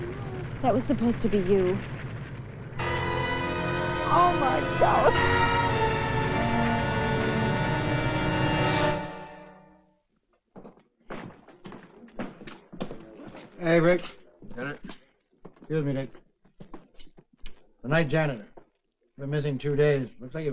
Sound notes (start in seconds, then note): 2.8 dramatic orchestral music; 10.5 shoes clattering